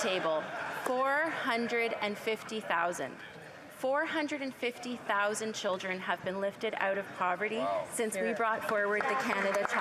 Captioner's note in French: voix de l'interprète